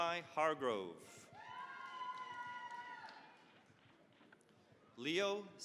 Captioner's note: cheering, applause